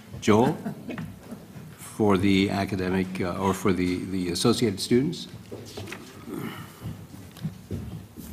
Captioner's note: laugh